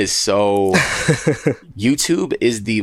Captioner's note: laughing